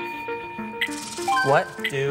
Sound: bell dings

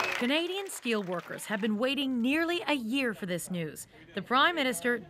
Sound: cheers and applause

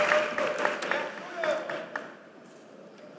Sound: applause

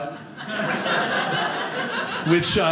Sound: audience laughing

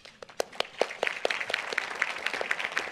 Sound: applause

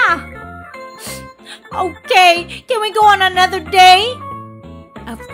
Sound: sniff

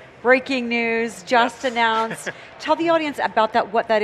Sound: laughs

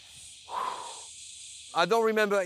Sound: deeply exhales

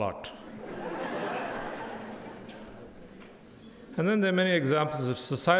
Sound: crowd laughing

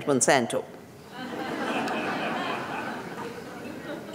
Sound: laughter

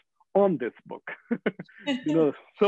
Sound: laughing

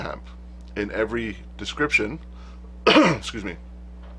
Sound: cough!

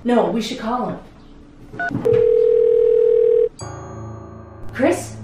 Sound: phone ringing

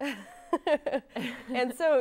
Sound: laughs

